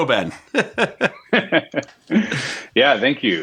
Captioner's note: laughing